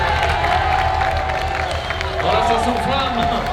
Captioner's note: crowd cheers